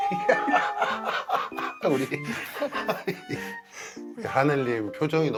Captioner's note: Jang-hoon bursts out laughing again